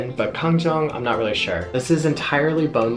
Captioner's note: speaks foreign language